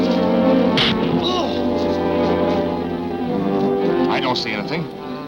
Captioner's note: man grunts